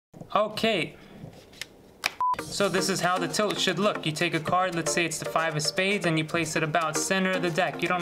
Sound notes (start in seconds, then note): 2.2 beep